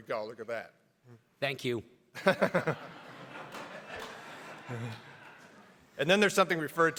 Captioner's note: everybody laughs